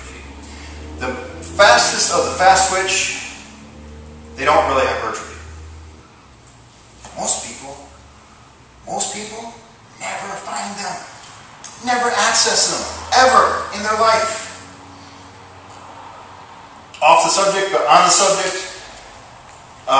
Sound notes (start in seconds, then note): 8.1 whisper